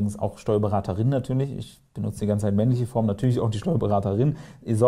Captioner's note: in German language